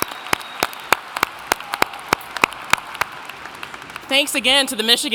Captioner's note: applauding